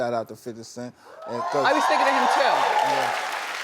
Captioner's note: crowd cheers